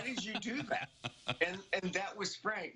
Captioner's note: laughter